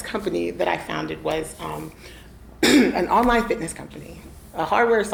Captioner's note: coughs